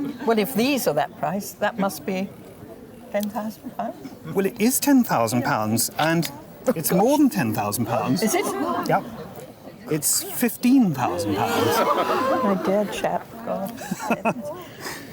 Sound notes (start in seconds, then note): 10.9 crowd gasps